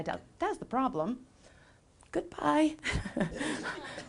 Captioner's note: laughing; laughs